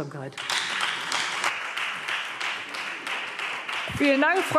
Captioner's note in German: Beifall Freie Demokraten und vereinzelt SPD